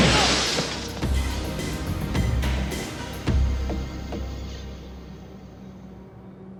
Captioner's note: gunshot blasting; glass shattering